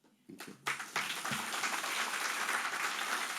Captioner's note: applause